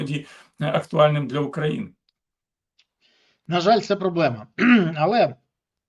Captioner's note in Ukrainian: прочищення горла